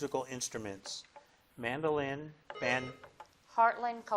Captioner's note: bell dings